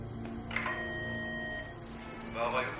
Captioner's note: beep tone